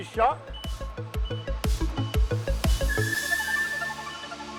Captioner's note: truck beeping